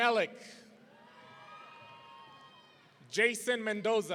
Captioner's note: audience cheering